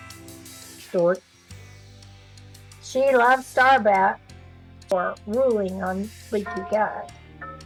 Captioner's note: clock is chiming in background